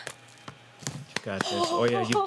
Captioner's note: gasps